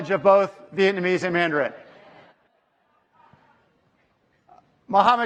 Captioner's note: speaking foreign language